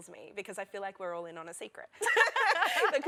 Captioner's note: laughter